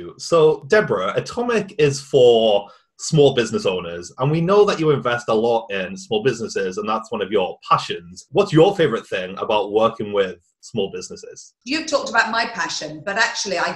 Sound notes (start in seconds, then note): none